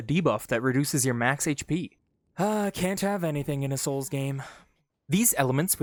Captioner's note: exasperated, sarcastically